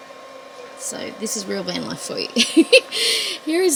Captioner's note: giggles